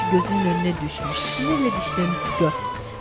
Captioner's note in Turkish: Nefes sesi